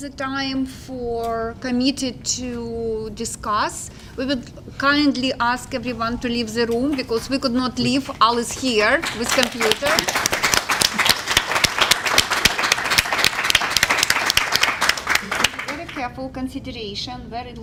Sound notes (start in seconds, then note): 8.7 applause